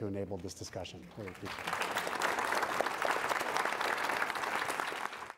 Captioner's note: applause